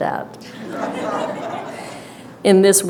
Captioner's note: audience laughter